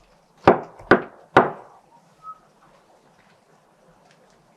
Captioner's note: knocks on door